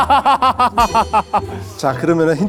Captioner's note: haha